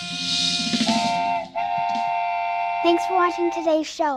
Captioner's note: train horn blares